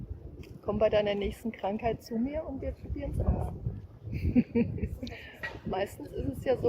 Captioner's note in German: lacht